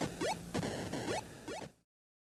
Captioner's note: blip